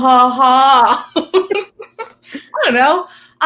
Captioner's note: both chuckling